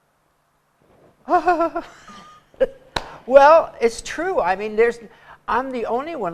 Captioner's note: laughter